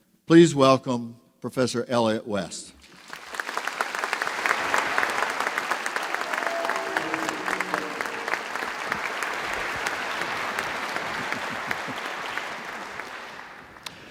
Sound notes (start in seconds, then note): 2.8 applause